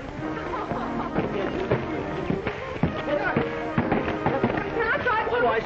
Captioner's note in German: lacht und plappert